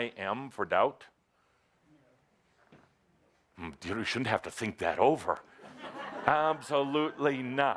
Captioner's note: short pause; laughter